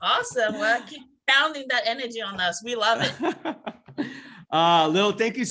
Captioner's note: laughs